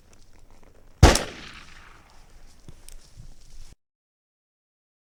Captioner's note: gunshot blasts